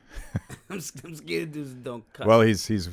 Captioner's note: laughs